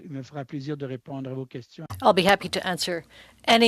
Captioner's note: speaking French